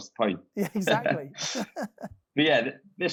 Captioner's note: chuckling